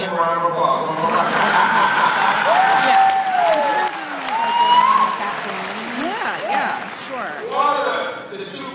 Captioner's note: applause